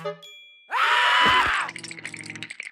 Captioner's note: chattering